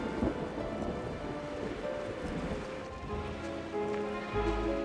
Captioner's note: wind blowing